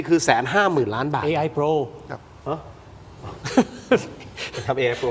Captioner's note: laughs